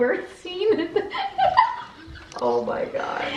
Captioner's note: both laughing